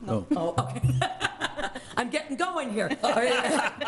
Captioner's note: laughs